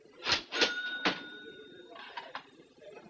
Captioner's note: register rings